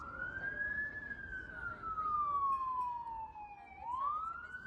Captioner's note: siren